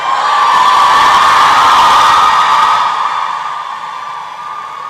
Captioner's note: applause and cheering